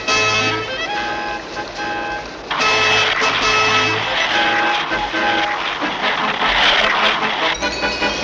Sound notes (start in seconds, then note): 6.2 splash!